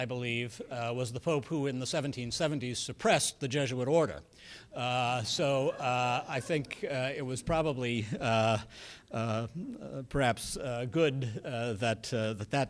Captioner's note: laughter